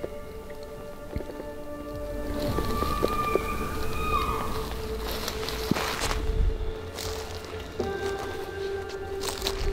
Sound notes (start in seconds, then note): 2.4 elk bugling